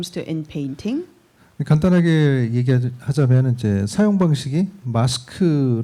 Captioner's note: speaking korean